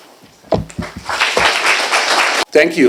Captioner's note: applause